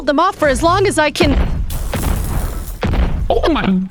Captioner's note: crash. bang. scrape. explode